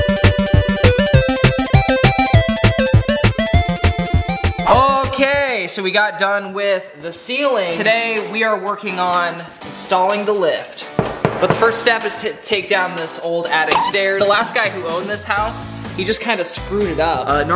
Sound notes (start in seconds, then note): 11.0 wood knocking